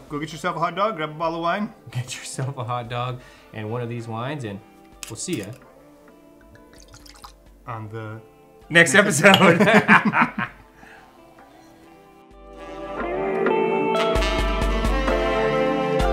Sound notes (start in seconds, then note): 6.4 wine trickling; 9.2 both laughing; 12.9 soft music